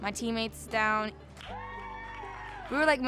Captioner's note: people cheering